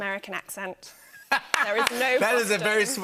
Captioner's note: laughter